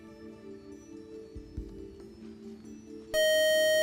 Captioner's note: time out buzzer